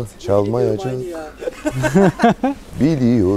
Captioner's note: laughing